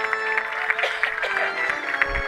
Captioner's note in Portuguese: tosse